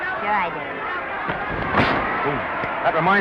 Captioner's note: punches popping